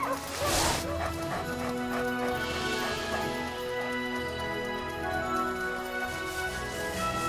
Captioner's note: Buck panting; epic music